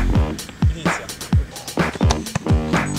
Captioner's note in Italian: Hachim